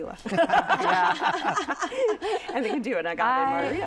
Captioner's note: laughter